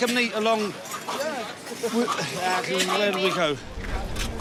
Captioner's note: building noises